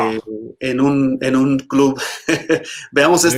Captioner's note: Risas